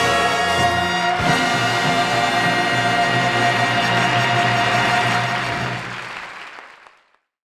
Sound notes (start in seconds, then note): 1.0 audience applauding